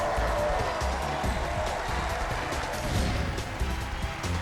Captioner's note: cheers and applause